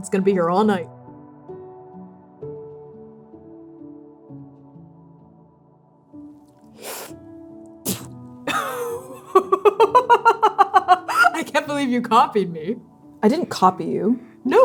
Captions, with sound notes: It's going to be here all night. [slurping] [spitting] [laughing] I can't believe you copied me. I didn't copy you.